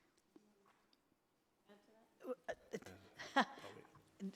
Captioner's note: laughing